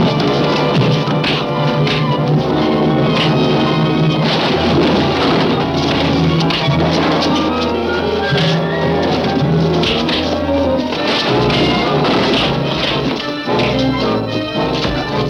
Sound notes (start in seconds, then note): 4.3 barrels and boxes clattering; 6.7 dramatic music continues; 6.7 fists thudding